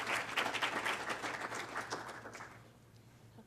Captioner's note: clapping